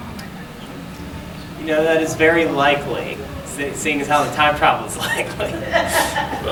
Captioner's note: laughing